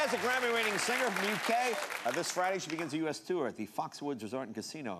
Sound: cheers and applause

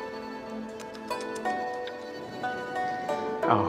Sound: makes clicking sounds

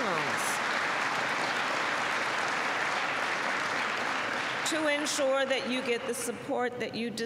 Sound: applause

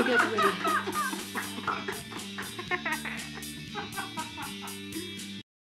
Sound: laughter

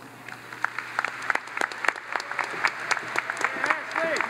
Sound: audience applauds

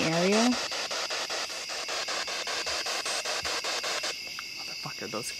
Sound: loud, choppy static

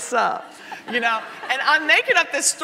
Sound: audience laughing

